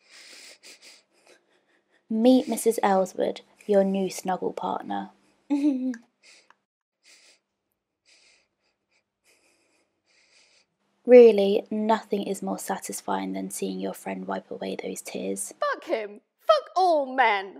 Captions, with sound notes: Meet Mrs Ellswood, your new snuggle partner. (Minnie does a little giggle). (Minnie sniffles). Really, nothing is more satisfying than seeing your friend wipe away those tears. Fuck him! Fuck all men!